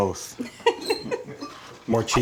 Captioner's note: laughing